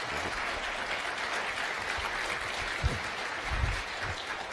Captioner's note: applause